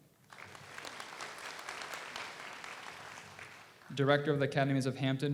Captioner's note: audience applauds